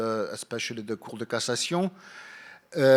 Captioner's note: speaking in foreign language